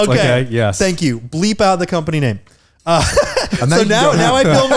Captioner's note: laughing